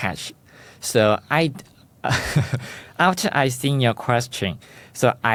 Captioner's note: laughs